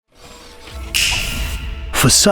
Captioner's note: machine whirring; finger snapping